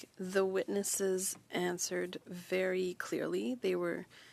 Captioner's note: speaking French